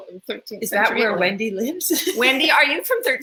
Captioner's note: laughs